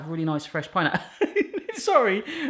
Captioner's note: laughs